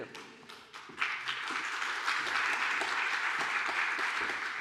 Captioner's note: applause